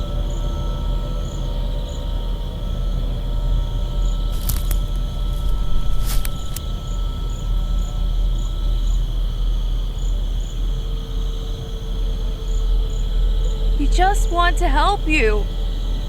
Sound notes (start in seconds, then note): 4.3 stalks cracking